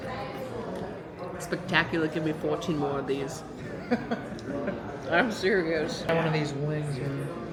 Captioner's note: laughs